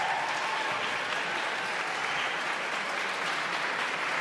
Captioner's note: audience cheers